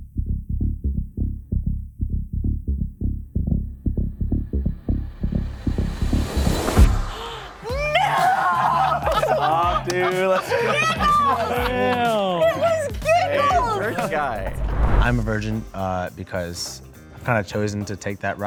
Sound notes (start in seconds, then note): 1.2 arousing music; 8.0 laughter